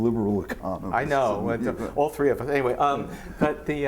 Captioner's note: laughs